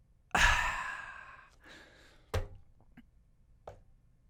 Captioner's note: exhales